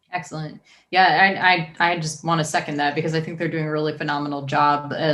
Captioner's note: none